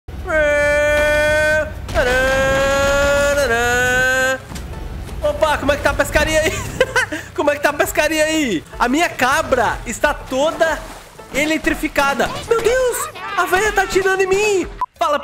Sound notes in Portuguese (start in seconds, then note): 6.4 risos